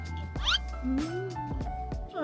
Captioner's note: mmm